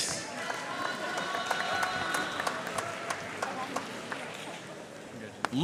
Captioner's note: audience cheering and applauding